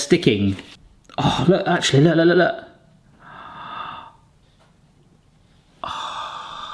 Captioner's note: gasps in anticipation